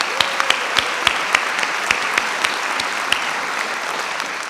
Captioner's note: audience applauding